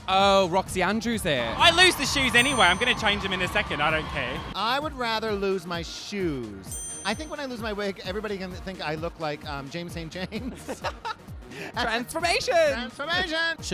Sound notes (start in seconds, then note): 10.4 laughs